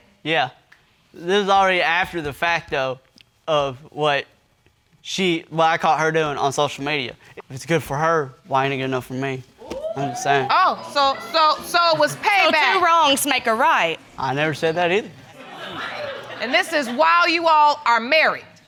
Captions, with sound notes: Yeah. This was already after the fact, though, of what she... What I caught her doing on social media. If it's good for her, why isn't it good enough for me? (AUDIENCE EXCLAIMING) I'm just saying. Oh, so it was payback? So two wrongs make a right? I never said that either. (AUDIENCE LAUGHING) And this is while you all are married?